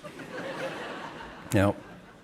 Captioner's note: audience laughing